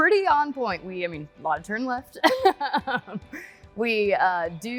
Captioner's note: laughs